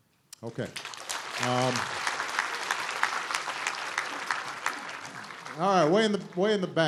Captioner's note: applause